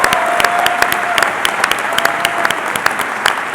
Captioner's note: cheering and Applause